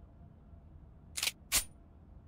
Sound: gun cocks

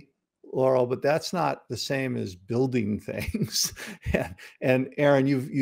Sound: laughs

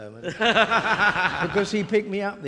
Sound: audience laughing

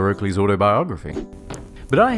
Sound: throwing noise; thud

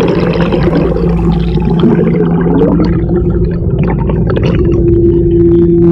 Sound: water splashing on camera; motor humming underwater

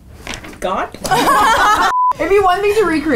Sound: everyone laughing

